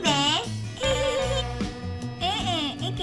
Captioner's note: laughing like someone trying to hold in their pee